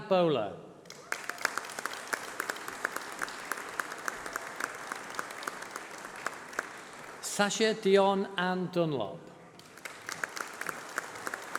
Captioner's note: applause